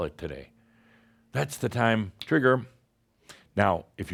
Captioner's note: snap!